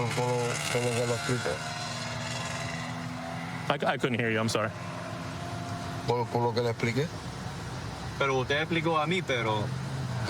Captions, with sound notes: I couldn't hear you. I'm sorry. [speaking spanish]